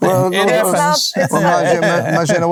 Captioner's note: laughing